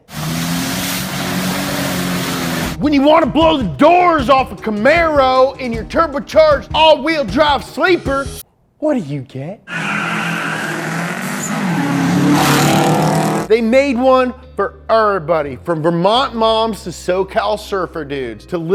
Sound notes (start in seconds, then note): 0.0 engine revving; 9.7 engines revving